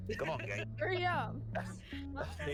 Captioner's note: laughs